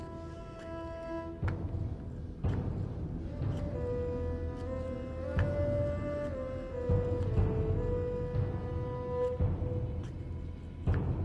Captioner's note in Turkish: Takırtı Sesleri